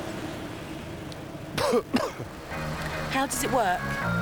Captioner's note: coughs